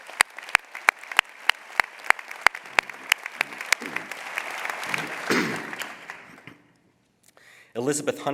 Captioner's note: applause